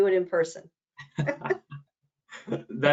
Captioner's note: laugh